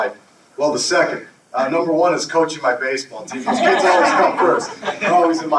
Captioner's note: audience laughter